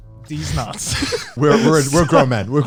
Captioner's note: all laughing